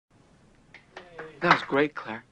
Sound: minimal applause

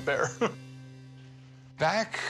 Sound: chuckle

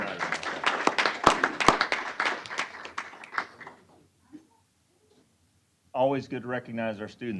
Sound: applause

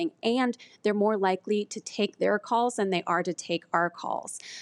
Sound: none

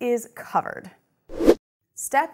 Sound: air rushes

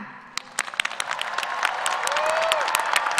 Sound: applause

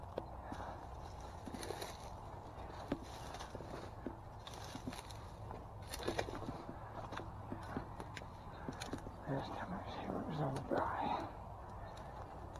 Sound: sticks snapping loudly

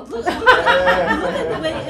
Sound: laughter

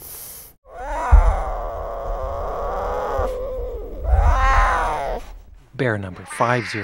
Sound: sound of cub growling

